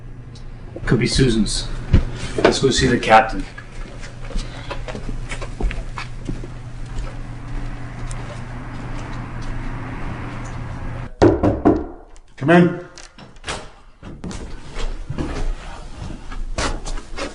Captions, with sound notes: - Could be Susan's. Let's go see the captain. (knocking) - Come in.